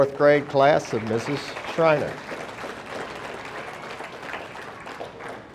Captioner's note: audience applauding